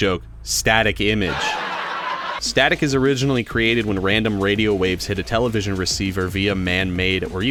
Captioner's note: laugh track